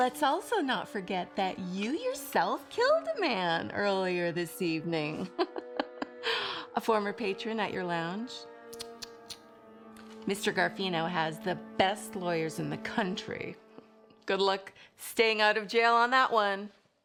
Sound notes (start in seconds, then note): 5.3 laughs